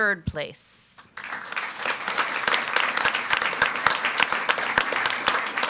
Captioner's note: audience applauds